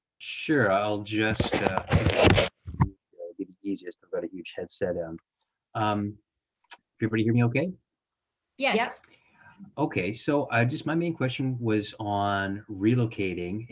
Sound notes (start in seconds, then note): 1.2 microphone rustling